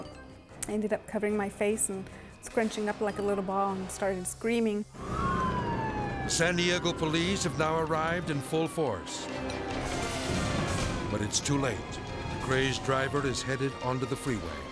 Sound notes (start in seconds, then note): 5.1 sirens blare; 9.7 intense dramatic music; 9.7 sirens blare